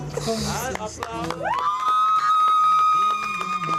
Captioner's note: claps